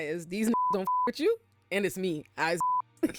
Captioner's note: beep; beep